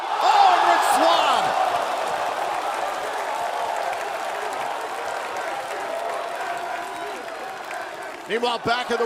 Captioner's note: crowd cheering